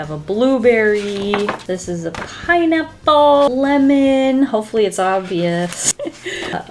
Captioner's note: laughs